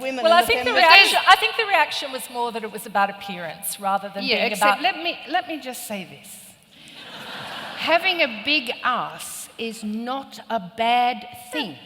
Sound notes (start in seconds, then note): 6.9 laughter